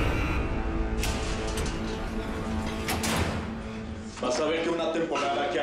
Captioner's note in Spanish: Ruidos de las rejas